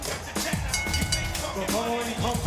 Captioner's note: bell ringing